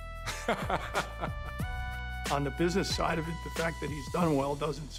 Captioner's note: laughs